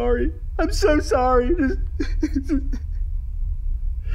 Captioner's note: sobbing